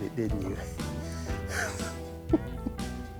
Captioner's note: laughs